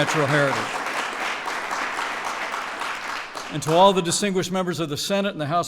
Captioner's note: applause